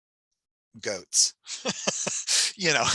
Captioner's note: laughs